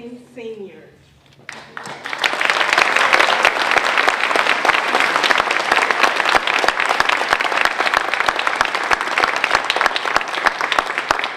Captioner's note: applause